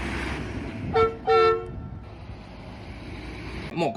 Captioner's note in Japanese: バスのクラクション音